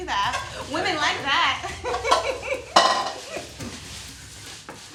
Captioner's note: laughs